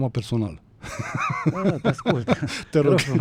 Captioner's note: laughter